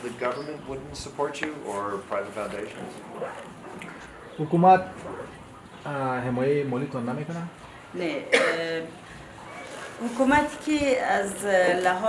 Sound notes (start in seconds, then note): 3.8 translator speaking in a foreign language; 7.8 speaking in a foreign language